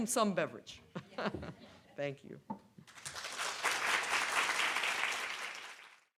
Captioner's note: audience applauds